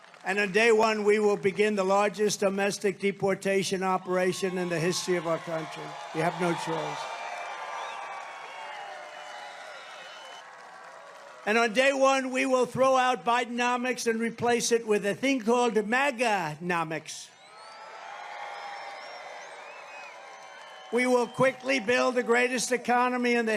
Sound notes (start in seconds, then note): 7.0 crowd cheering